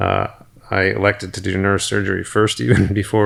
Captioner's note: chuckles